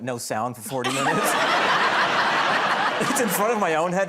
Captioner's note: laughter